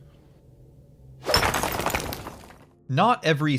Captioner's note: sledgehammer striking a wall